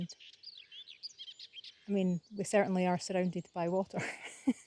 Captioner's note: laughs